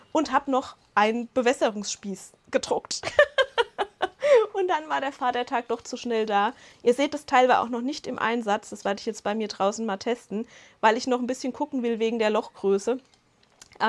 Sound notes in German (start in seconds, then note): 3.1 Lachen